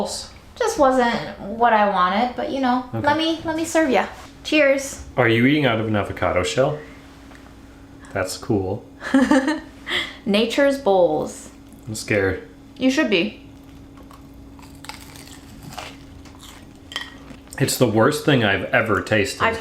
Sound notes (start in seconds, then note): 9.0 laughing; 13.5 crackling sound